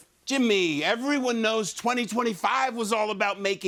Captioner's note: none